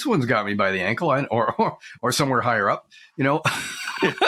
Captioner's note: laughs